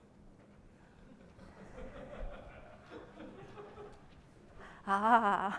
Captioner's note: laughter